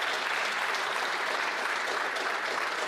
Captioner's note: applause